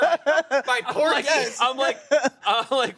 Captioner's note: everyone laughs